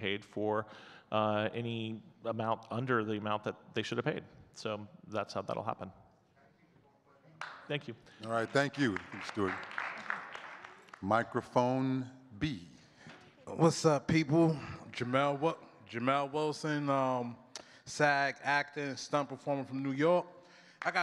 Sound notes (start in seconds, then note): 11.8 audience clapping